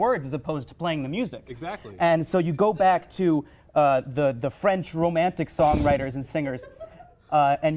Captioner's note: audence member laughs